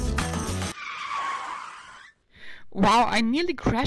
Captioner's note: tires screeching